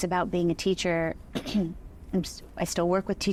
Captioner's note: clearing throat